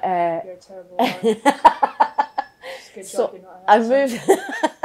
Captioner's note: laughter